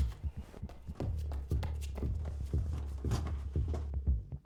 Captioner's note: person thuds; footsteps tapping